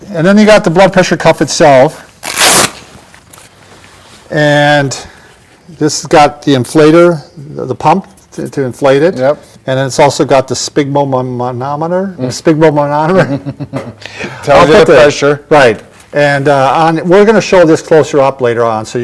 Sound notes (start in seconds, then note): 11.6 stuttering; 13.1 chuckle